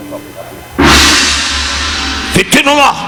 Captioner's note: gong chiming; Don speaking in Japanese